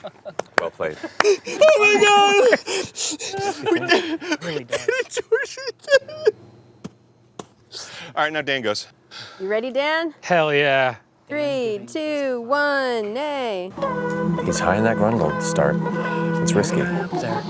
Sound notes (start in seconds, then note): 0.0 laughs; 3.6 sobbing; 6.5 hits the ground; 13.4 accapella; 15.9 breathing deeply